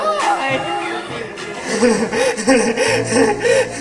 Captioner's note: laughing